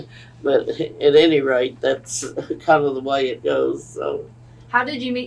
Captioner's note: laughs